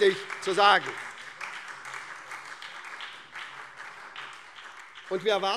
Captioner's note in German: Beifall SPD und DIE LINKE